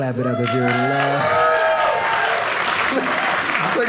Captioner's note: audience clapping